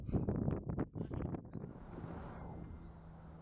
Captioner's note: wind blowing